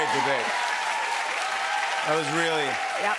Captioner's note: cheers and applause